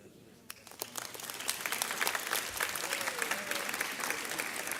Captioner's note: audience applauds